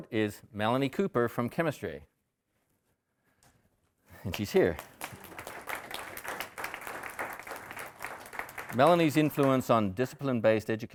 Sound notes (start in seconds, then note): 5.8 audience applauding